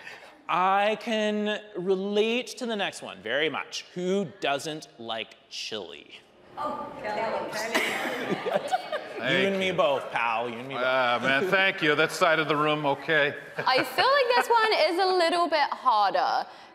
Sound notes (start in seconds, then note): 7.6 audience laughing; 7.6 hosts laughing